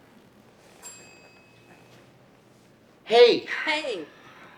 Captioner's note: computer pings